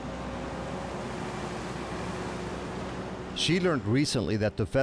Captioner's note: truck engine roaring